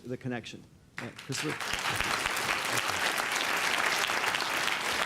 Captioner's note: applause